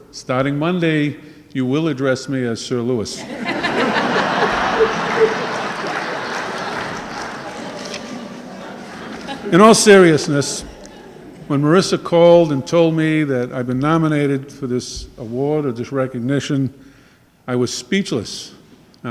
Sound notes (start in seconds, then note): 3.3 audience laughing and clapping